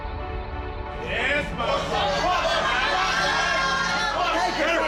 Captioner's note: cheering